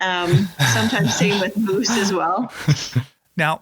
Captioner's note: laughs